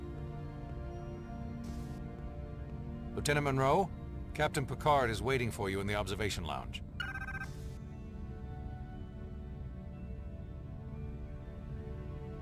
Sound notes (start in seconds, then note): 0.0 somber music; 7.0 beeping; 7.8 somber music